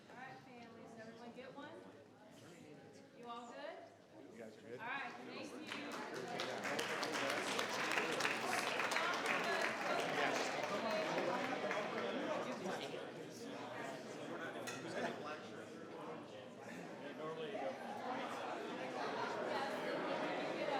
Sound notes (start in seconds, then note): 5.6 audience clapping; 6.1 group chattering